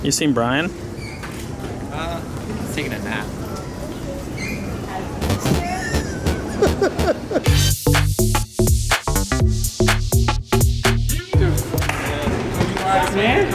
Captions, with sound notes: You seen Brian? - He's taking a nap. (laughing) (electro-pop music)